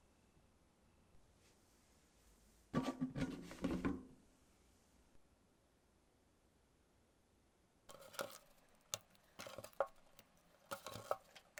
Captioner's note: folding